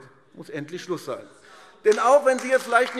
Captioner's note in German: Beifall AfD - Zurufe DIE LINKE